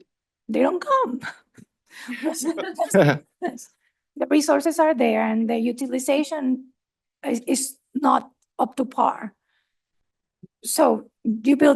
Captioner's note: laughter